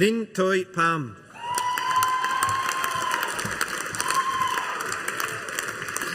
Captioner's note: audience applauding